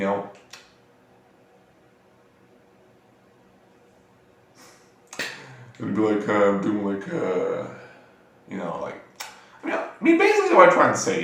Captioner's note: twiddling my thumbs + muttering